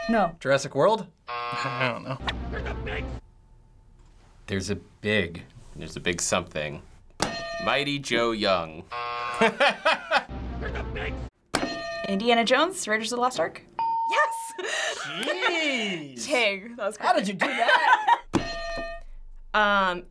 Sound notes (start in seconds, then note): 0.0 hitting bell; 1.2 buzzer; 2.8 man yelling; 7.3 hitting bell; 8.8 buzzer; 10.6 man yelling; 10.6 laughing; 11.7 hitting bell; 13.5 ding; 18.4 hitting bell